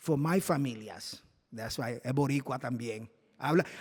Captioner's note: non-english speech